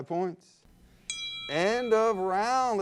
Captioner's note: bell dings